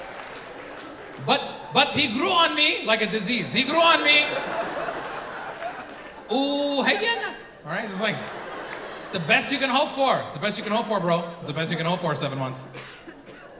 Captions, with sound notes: But he grew on me like a disease. He grew on me." (audience laughing) All right. It's like, it's the best you can hope for. It's the best you can hold for, bro. It's the best you can hold for, seven months.